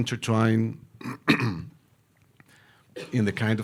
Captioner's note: clearing throat